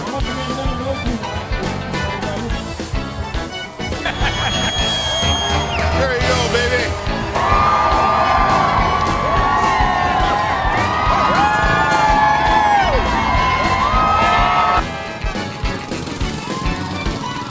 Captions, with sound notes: - There you go, baby! (crowd loudly cheering) (happy accordion music)